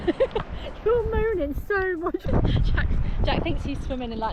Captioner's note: laughing